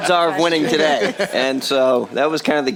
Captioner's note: chuckling